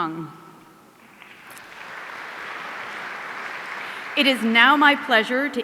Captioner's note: audience applauding